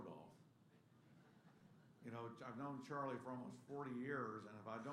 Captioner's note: laughter